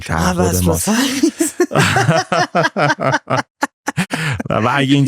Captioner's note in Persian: خنده